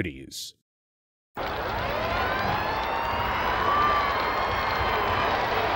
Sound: sirens

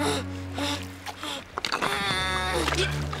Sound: grunting

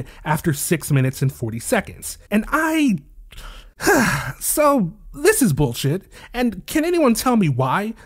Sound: sigh

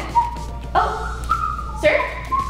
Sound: man whistling

